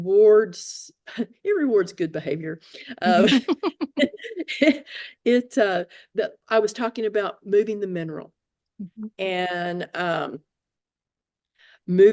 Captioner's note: laugh